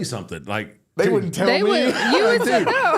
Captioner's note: laughs